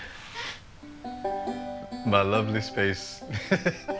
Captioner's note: chuckles